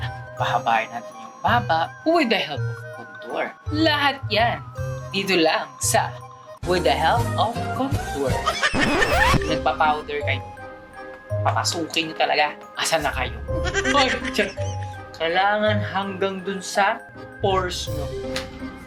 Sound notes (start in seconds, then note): 8.4 laughter